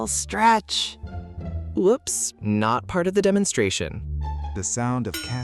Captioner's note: elbow bumps a stack of plates